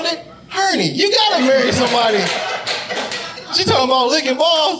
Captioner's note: audience applauding